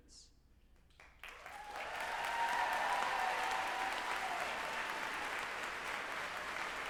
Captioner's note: group applauding and cheering